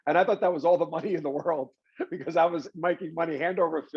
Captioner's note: laughs